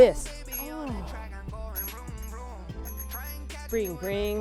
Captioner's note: ringing bike bell